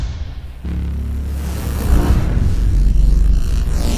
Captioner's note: forcefield loud thump; buzzing from forcefield